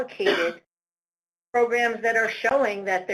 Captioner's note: audio cuts out